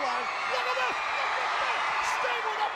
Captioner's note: crowd cheers